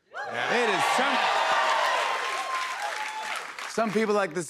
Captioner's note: cheers and applause